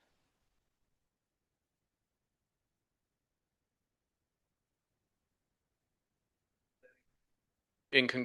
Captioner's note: audio cuts out